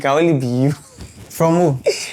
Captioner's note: laughs